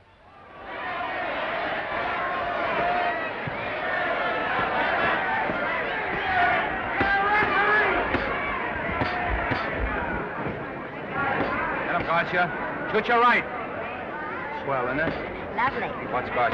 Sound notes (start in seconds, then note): 0.3 crowd cheering; 7.9 punches thudding; 8.1 crown cheering